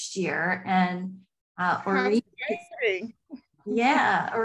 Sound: audio distortion

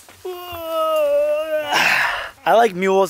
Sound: exhales loudly

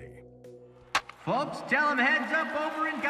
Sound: bat cracks

